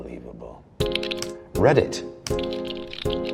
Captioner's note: soft piano music; keyboard clicks